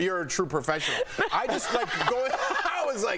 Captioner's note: laughter